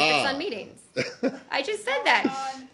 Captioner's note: laughter